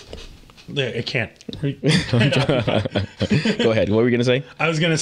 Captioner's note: both laughing